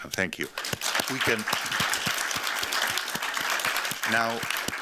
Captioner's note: applause